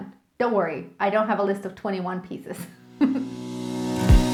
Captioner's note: chuckling; light instrumental music